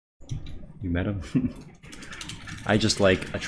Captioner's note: chuckles